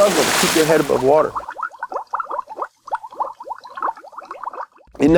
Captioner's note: water bubbling